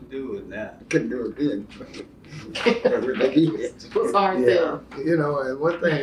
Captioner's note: laughter